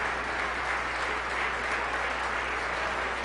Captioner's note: applause